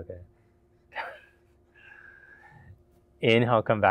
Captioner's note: laughing